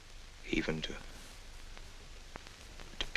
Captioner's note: none